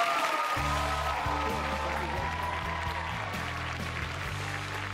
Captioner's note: cheers and applause